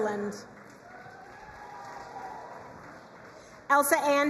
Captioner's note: crowd cheering and applauding